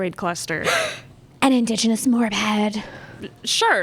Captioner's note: gasp